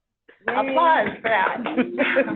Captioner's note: laughs; people applauding